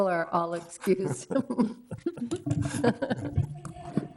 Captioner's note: all laughing